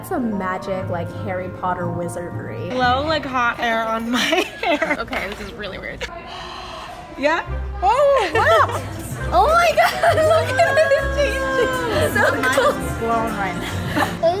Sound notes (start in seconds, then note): 4.1 laughs; 6.2 breathes; 13.4 laughs